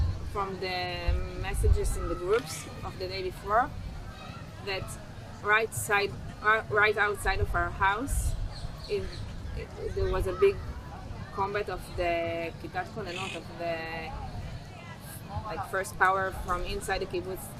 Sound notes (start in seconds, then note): 12.2 hebrew